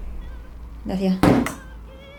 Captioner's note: plonk!!!